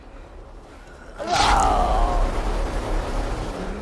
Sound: Bondage Groans in Pain/Dies

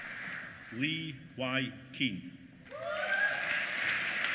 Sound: applause

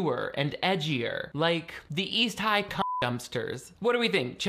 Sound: beep

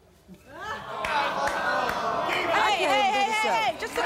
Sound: audience groaning

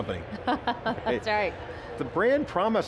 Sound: laughs

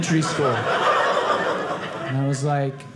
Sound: audience laughing

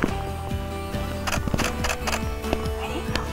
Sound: camera shuttering

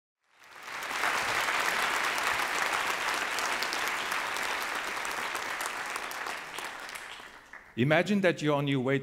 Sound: audience applause

